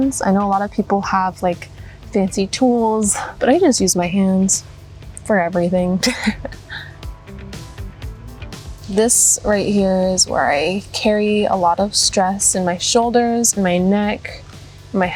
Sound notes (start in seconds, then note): 6.0 laughs